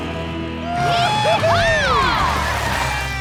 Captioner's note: cheering